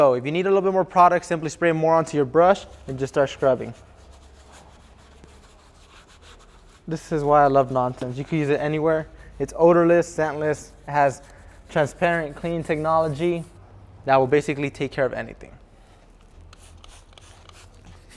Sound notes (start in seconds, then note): 4.6 scrubbing